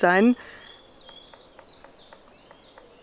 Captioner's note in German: Vogelgezwitscher und Spechtklopfen